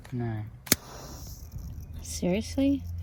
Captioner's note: lighter clicks; lighter clicks, flames hisses, and then changes state